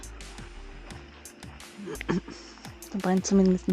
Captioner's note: clear throat